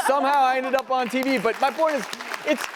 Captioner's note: audience claps